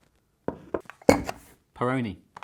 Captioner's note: thuds